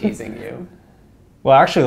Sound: laugh

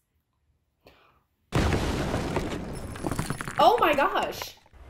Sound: crashing

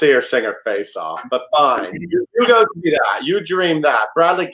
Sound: laughs

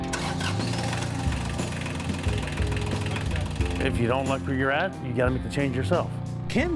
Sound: starting up tractor

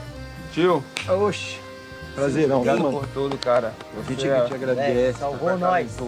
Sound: all speaking in foreign language

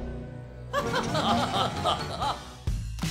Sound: laughing

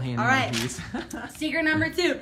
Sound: laughs

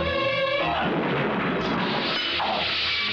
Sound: thunder crashing

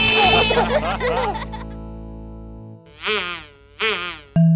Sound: family laughs

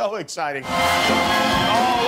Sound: cheering

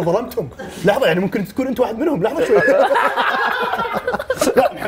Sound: laughs

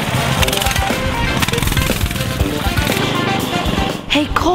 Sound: upbeat rock music; engine revving

